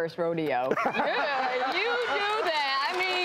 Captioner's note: laughing